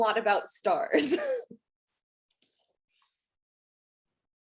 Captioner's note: laughing